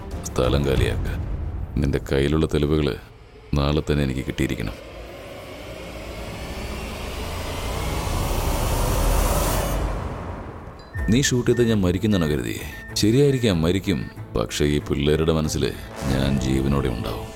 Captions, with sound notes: leave! Meet me tomorrow and hand over the evidence to me Do you think I'll die if you shoot me? [device beeps] Of course, I will But I will continue to live through my boys